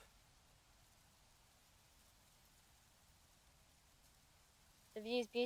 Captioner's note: wind